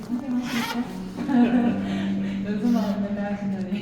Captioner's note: laughs